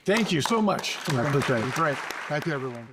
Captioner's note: applause